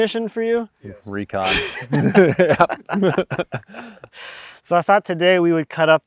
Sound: all laughing

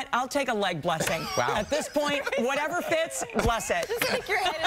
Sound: laughter

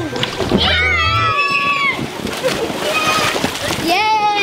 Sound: kids screaming

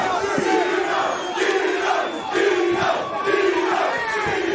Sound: crowd Chanting

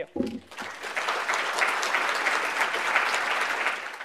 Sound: applause

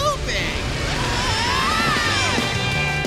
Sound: screaming

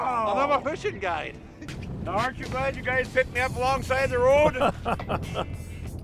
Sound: laughing

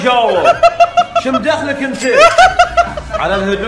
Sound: laughing

